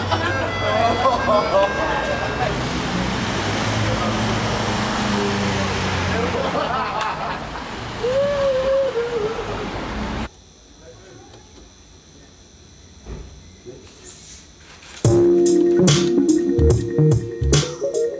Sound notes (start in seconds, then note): 2.4 engines whirr; 6.1 laughter; 15.0 dreamy electronic music plays